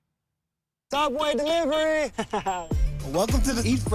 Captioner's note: laughing